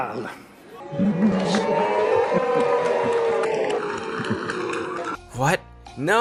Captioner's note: sound of people in the audience booing and Laughing nervously